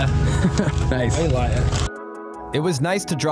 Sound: chuckles

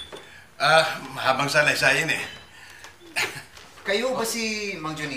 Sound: chuckles

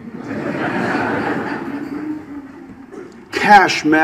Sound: audience laughs

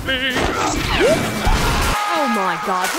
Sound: people screaming

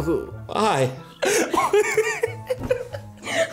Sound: laughing

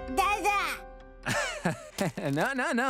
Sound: laughing

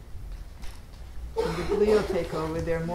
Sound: attendee coughing

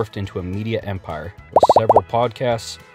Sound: bubbles popping

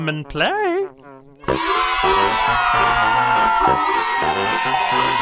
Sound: cheering

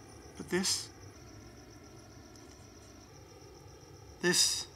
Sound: none

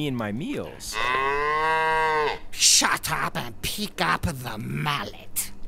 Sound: Tony moos

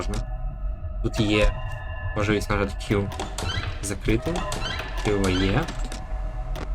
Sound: door

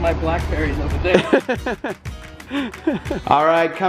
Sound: laughter

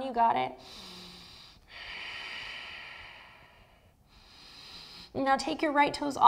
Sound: deep breathing

